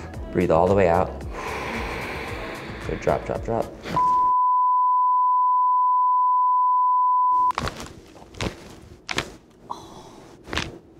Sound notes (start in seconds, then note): 0.0 loudly inhales; 1.3 exhales; 4.0 long beep; 7.6 joints crack